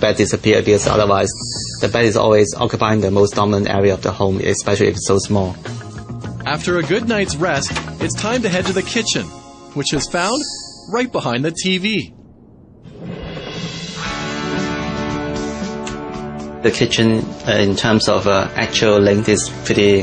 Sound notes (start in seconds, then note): 12.8 sound of wall shifting; 16.9 background music plays